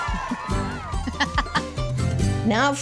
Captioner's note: laughing